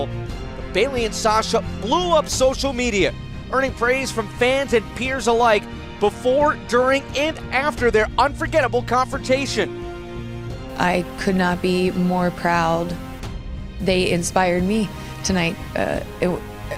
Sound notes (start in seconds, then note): none